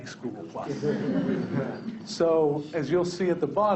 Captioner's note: people laughing